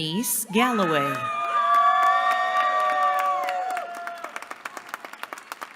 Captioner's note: cheering